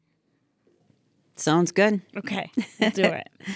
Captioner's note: chuckling